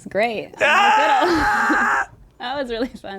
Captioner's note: screams